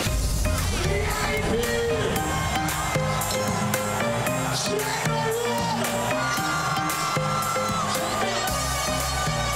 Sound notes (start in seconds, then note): 0.1 upbeat music; 3.2 crowd cheering; 9.4 noisemakers beeping